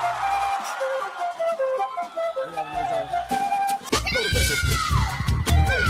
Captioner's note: audience cheering; upbeat music